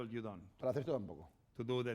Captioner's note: speaking spanish